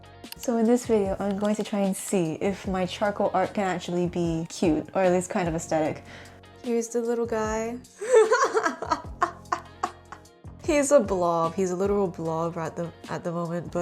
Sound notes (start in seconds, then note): 8.0 laughs cruelly